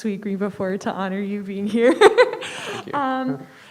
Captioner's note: laughs